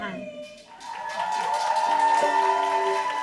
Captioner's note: audience applauding; banjo strumming